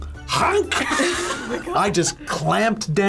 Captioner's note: group laughs; grunts